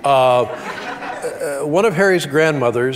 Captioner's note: audience chuckles